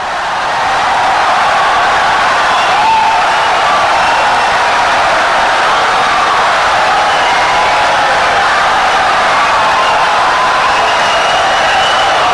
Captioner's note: wild applause and cheering for 17 seconds